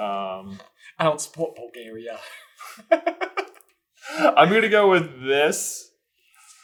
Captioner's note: giggles